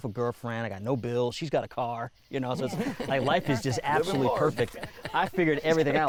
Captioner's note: others laugh